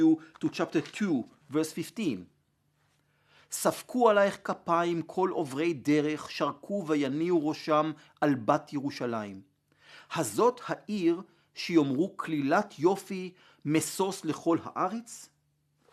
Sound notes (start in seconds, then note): 0.0 Hebrew; 4.3 Hebrew